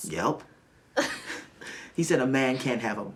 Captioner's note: Tracy laughs